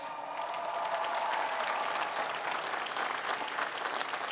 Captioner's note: cheering